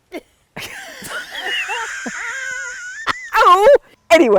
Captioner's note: laugh